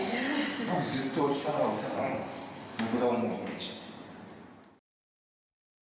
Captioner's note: speaking in foreign language